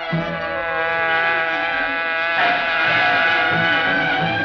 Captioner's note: buzzing; tires squealing